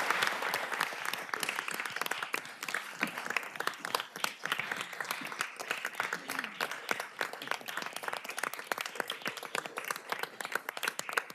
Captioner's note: applause